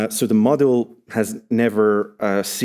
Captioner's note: none